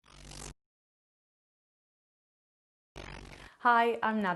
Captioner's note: TV static